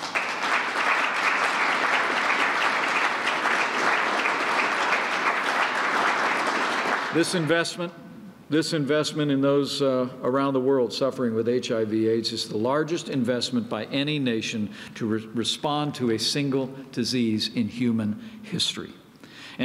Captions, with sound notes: (Applause.) This investment in those around the world suffering with HIV/AIDS is the largest investments by any nation to respond to a single disease in human history.